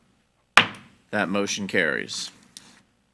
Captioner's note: gavel banging